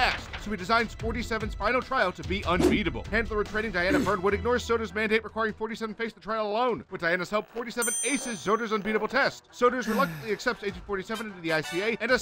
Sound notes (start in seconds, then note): 0.0 papers shuffling; 2.5 whoosh sound